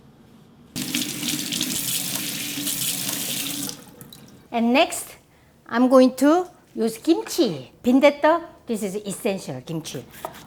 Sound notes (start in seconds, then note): 0.7 water running